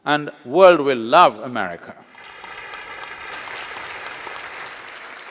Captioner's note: applause